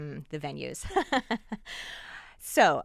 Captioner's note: laughing